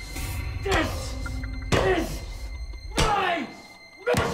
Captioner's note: banging; grunting